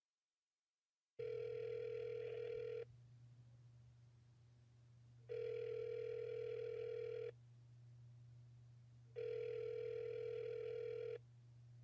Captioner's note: phone hangs up; phone rings, isn’t picked up